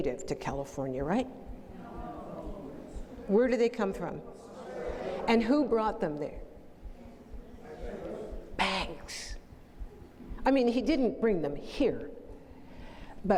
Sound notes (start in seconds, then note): 7.3 multiple responses